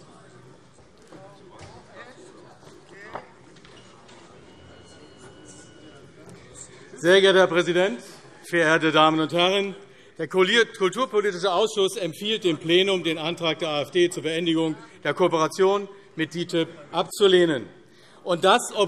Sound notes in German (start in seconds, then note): none